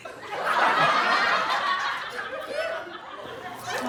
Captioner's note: audience laughs